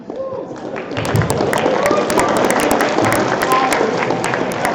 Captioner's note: applause